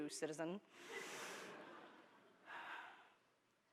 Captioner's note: laughter